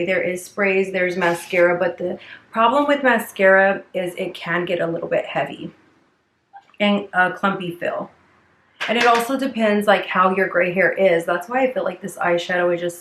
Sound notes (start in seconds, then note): 8.8 brush knocking